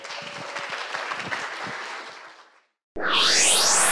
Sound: applause

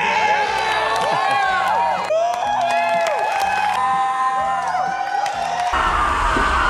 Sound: audience cheering; audience applauding; people screaming

